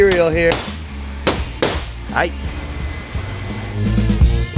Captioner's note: hammering; upbeat music